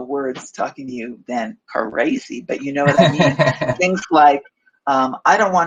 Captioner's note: laughs